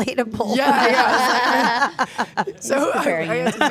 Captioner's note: laughing; Stephanie and Elyse laughing